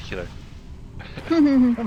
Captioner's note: laughs